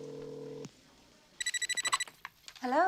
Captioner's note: phone ringing